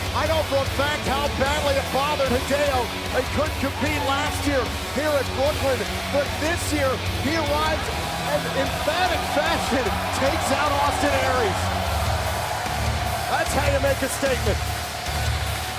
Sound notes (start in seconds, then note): 11.9 crowd cheering